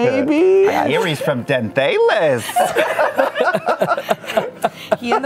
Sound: laughter

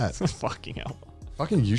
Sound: chuckling

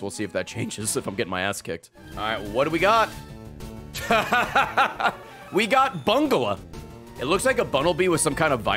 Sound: laughs

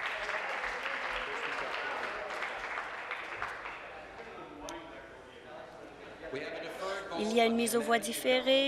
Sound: applause

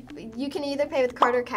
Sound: bubble pops

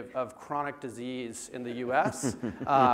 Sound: laugh

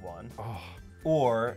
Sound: groans

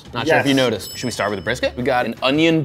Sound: bell dings

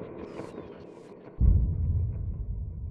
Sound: bom

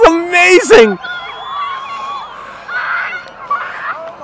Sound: crowd cheers; children screaming

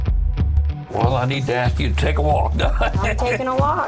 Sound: laughs

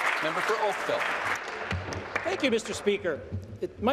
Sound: applause

